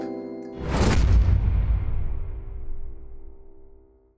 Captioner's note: whoosh